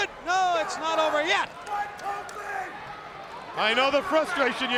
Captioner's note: crowd cheering